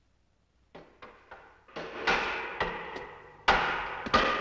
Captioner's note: boards banging